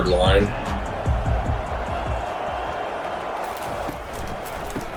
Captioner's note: crowd Noises